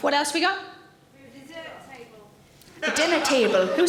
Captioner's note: audience laughing